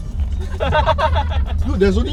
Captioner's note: laughs